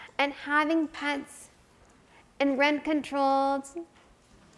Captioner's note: none